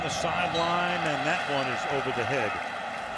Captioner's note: whistle blows